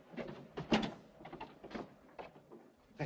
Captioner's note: door opens